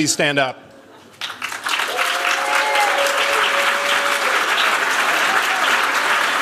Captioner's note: cheers, applause